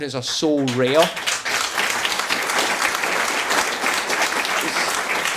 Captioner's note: audience applauding